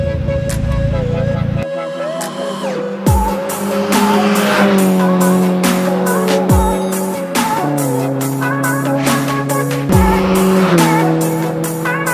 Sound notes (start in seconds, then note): 0.1 upbeat music; 4.7 car engine roaring